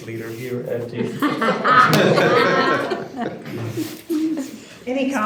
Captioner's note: group laughing